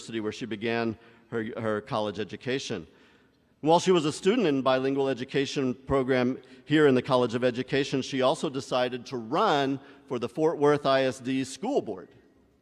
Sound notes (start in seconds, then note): none